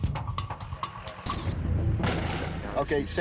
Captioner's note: gunshot